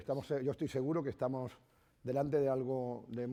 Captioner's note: speaking spanish